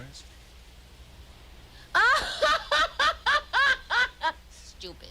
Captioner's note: laughing